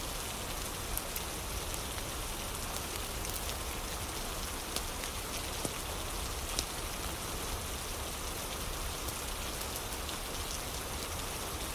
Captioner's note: fire crackling; fire crackling; fire crackling